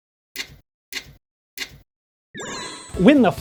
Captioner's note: menu clicking